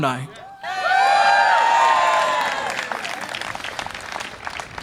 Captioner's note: graduates cheer